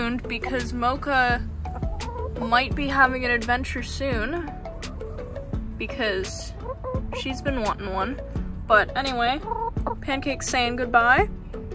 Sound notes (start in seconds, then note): 5.9 chicken sounds; 9.0 chicken noise